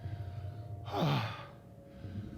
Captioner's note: sighs